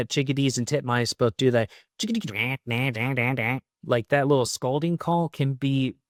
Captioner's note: mimics bird sound